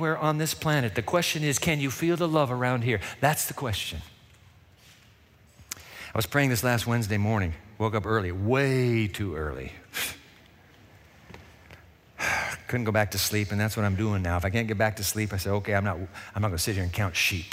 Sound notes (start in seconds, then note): 9.2 scoffs; 12.2 sighs